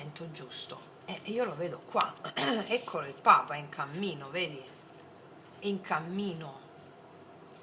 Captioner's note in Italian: schiarire la voce